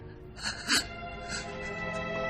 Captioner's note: crying